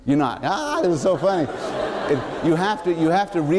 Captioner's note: laughter